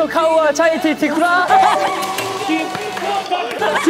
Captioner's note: bursts out laughing at the sudden increase in difficulty